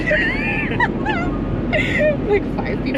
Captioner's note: both laugh